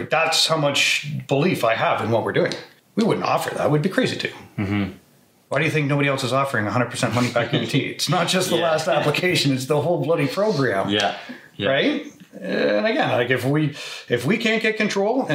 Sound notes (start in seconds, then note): 8.4 laughs